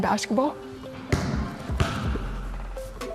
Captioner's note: ball bouncing